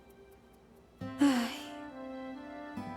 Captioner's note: sigh